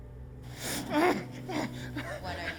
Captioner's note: DeHart gasping